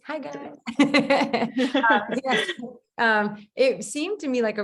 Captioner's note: giggling